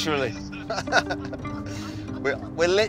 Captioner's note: both laughing